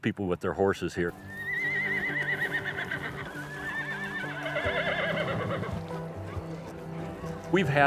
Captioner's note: horses neighing